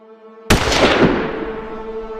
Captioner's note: gun Shot